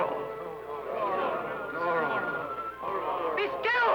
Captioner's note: crowd